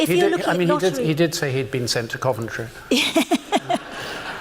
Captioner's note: laughter